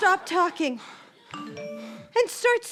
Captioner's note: phone vibrates